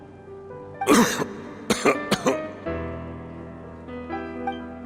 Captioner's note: cough